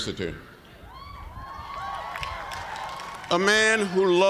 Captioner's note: cheers